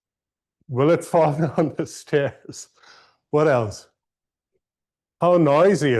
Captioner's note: laughter